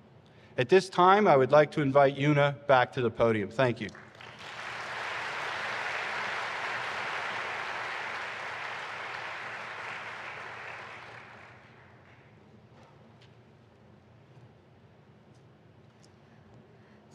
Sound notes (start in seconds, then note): 8.7 applause